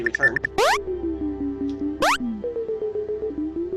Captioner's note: switch beeping